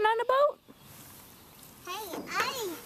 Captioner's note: birds sing faintly